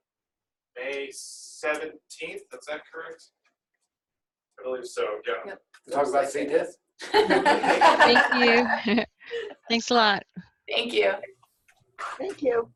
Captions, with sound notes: May 17th, is that correct? Yeah. Talk about C. diff.? (laughs) Thanks a lot. Thank you.